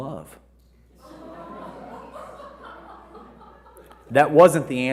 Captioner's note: audience laughing